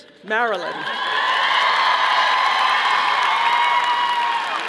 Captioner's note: audience applauding